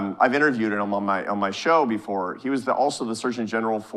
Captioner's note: none